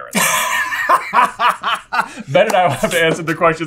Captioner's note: laughing